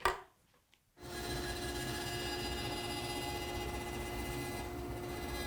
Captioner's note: machine whirring